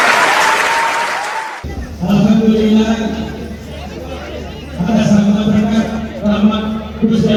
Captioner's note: clap